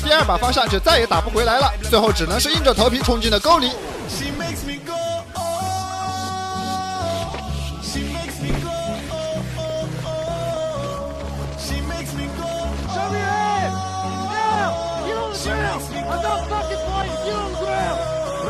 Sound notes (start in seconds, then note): 7.4 exclamation of shock/excitement